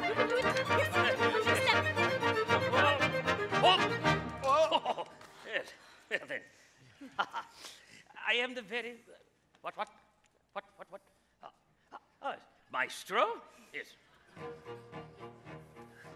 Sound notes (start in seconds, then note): 3.6 general exclaims; 4.5 laughs